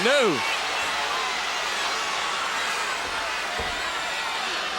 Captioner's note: crowd cheering